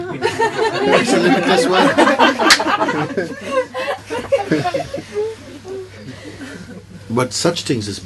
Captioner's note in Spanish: risas